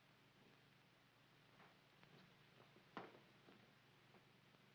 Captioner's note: none